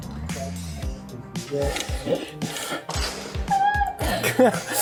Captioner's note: laughing